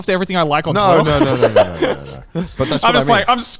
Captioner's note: laughing